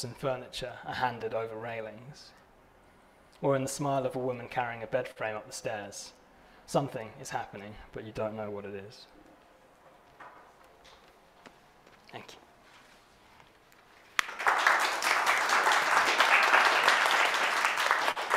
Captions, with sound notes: and furniture are handed over railings or in the smile of a woman carrying a bed frame up the stairs. Something is happening, but you don't know what it is. Thank you. (audience applauding)